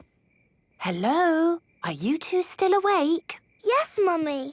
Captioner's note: whisper